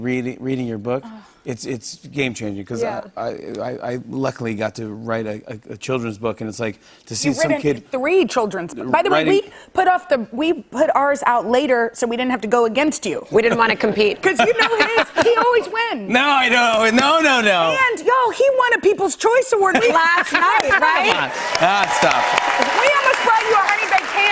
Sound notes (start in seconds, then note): 14.2 laughter; 20.6 cheers and applause